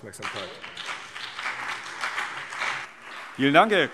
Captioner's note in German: Beifall CDU und BÜNDNIS 90/DIE GRÜNEN